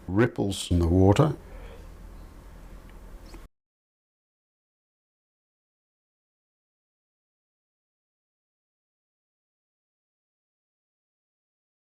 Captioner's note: silence